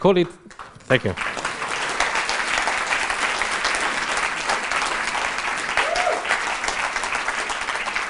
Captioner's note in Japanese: 拍手